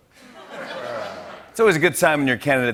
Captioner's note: laughter